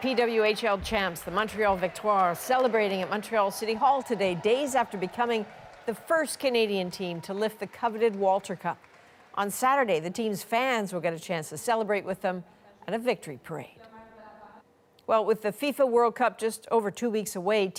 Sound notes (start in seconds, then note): 1.2 cheers and Applause